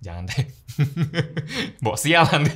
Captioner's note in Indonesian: tertawa